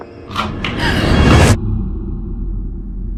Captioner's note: both girls gasp